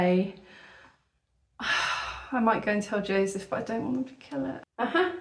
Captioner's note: sigh